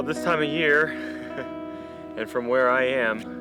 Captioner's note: chuckling